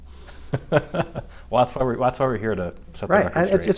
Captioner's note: laughing